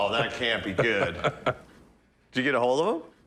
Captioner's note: Corey laughing